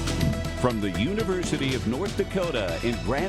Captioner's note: voiceover